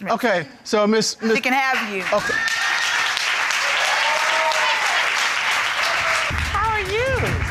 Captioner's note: audience applauds